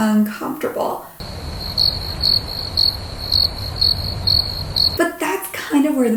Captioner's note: crickets chirping